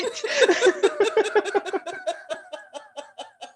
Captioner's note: laughter